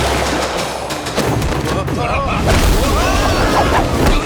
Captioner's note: grunting